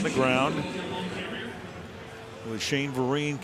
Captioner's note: pa announcement